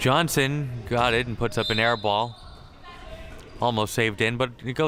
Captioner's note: whistle chirping